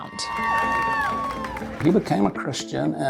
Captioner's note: crowd cheering